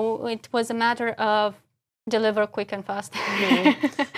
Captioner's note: laugh